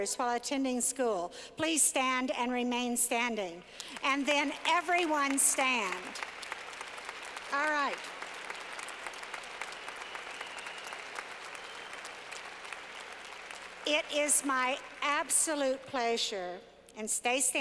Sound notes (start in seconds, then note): 8.1 clapping